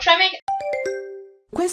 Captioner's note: question ding